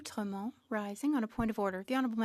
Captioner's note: speaking French